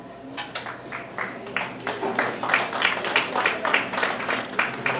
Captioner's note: audience applauds